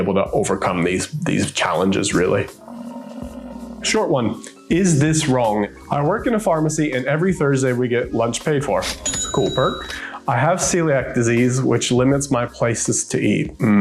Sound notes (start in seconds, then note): 2.4 buffalo grumbling; 9.0 bell chimes